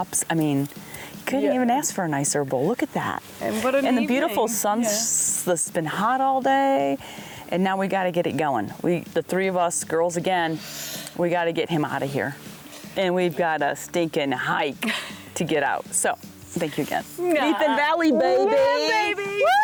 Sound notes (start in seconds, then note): 10.5 heaves; 14.8 laughs